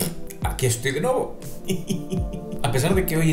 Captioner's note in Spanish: risas